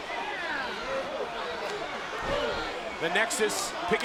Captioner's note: crowd yelling